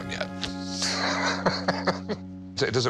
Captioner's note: laughs